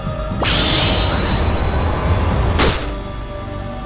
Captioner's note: whirlwind